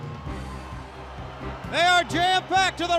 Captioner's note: crowd cheering